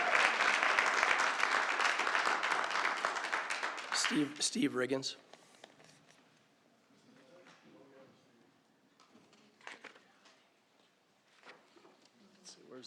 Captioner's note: applause